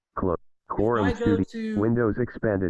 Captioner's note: automated voice